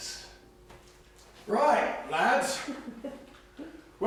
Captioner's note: British accent